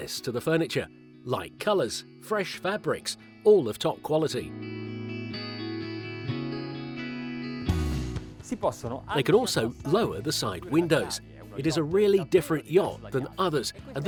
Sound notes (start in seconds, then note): 4.7 slow guitar music; 8.5 speaking foreign language